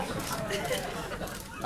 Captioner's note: laughter